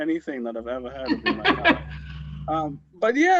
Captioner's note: laughs